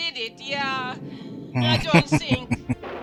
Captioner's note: laughing